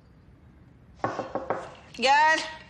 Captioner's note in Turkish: kapı tıklatılıyor